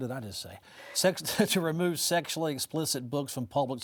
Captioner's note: chuckles